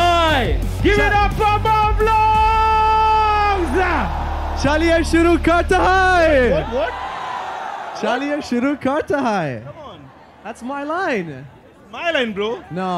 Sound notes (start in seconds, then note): 5.0 non-english speech; 8.6 non-english speech